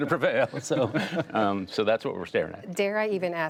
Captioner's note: laughter